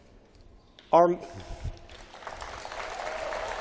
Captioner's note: applause